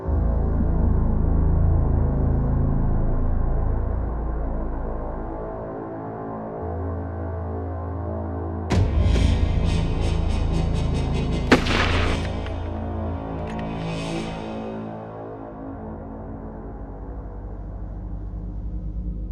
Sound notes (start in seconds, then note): 9.3 chilling music; 11.5 gun fires; 15.5 soft ominous music